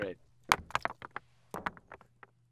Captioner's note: clanking footsteps